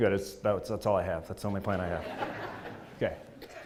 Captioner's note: laugh